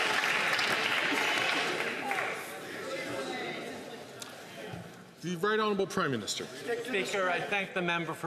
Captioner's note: some Applause